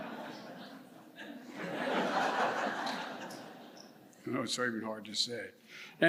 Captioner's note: laughter